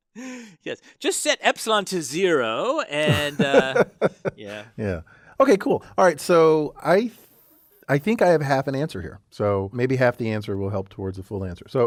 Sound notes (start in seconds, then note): 3.0 laugh